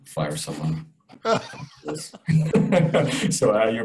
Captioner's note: laughs